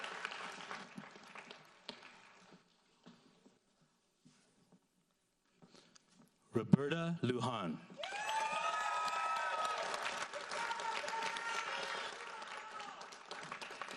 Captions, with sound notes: Roberta Lujan. (audience applauds)